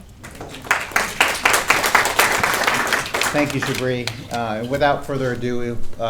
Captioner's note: applause